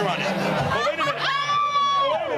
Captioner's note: group laughs